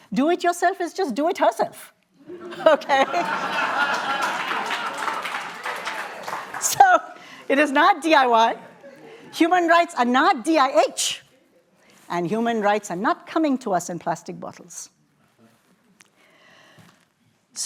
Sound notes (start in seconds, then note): 2.2 laughter; 5.6 applause